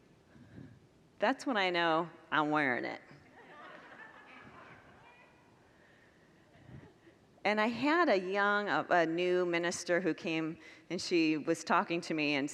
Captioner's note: congregants laugh